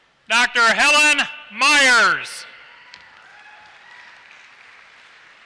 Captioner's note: applause